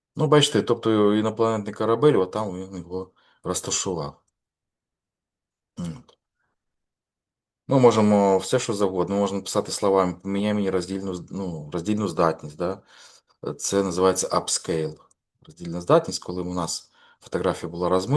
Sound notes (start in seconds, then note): 5.8 clearing throat